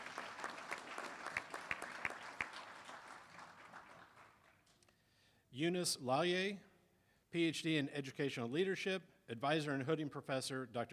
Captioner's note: applause